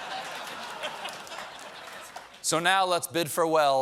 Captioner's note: laughter